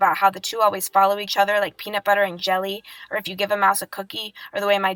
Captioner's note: none